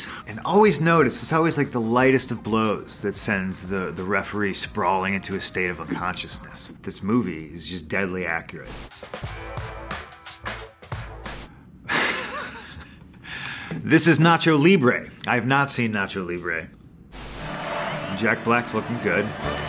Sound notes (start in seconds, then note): 11.9 laughing